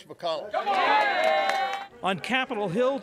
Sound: cheering and applause

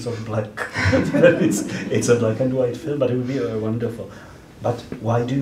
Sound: laughs

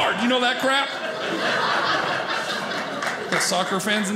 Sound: audience laughing

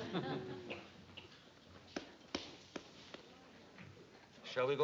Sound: hesitant clapping

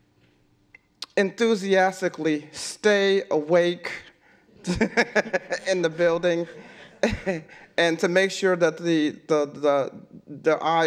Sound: laughs

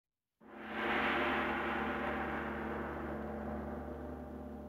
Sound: gong ringing

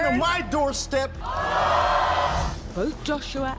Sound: audience gasping

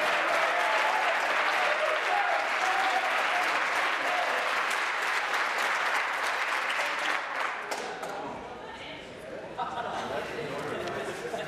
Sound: applause

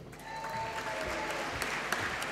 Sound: applause

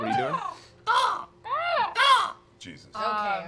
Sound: mimicking birds

